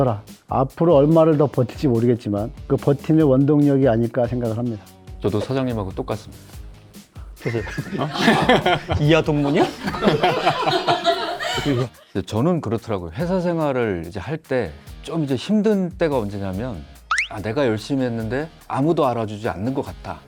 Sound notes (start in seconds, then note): 7.4 laughter